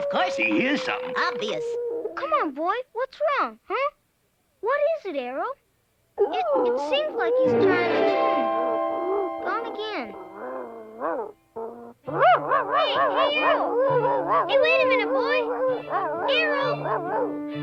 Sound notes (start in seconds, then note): 5.7 Arrow howling; 7.5 dramatic music; 12.0 Arrow barking